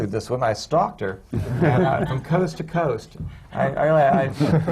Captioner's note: laughter